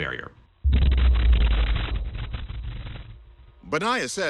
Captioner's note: thunderous boom